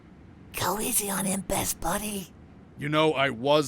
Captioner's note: whispering